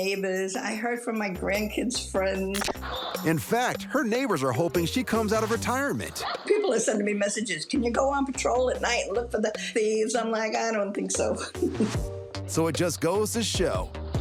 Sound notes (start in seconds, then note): 11.2 chuckles